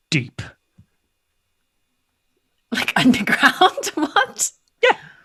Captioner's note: laughs